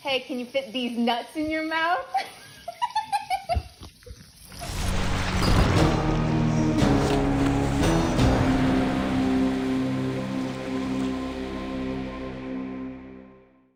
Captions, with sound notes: - Hey, can you fit these nuts in your mouth? (laughs) (gentle music)